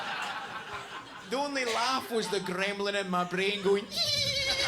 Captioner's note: audience laughs; giggling